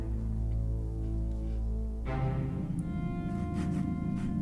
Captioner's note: hammering and sawing continues